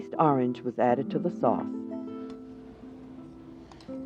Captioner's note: voiceover